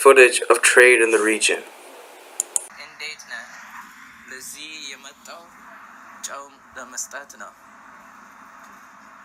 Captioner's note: speaking Amharic